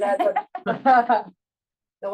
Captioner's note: panelist laughs